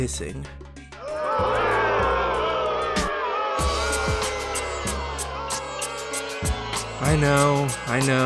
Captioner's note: violent Booing